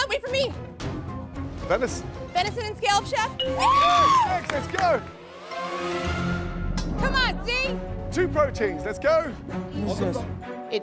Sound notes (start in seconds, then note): 3.5 cheers